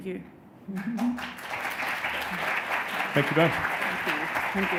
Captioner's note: audience applauds